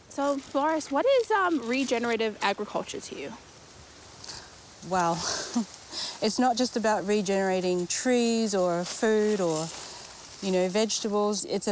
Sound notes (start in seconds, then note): 5.2 chuckles